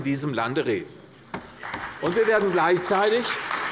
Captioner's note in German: Beifall bei der CDU und dem BÜNDNIS 90/DIE GRÜNEN